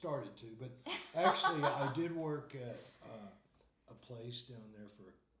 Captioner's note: laughing